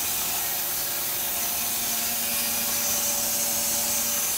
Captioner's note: machine sawing